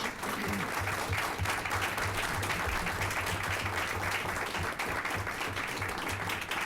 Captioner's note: applause